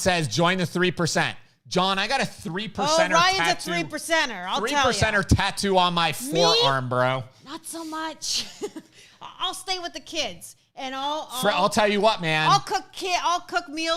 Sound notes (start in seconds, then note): 8.9 laughs